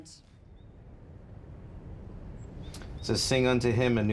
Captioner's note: birds tweet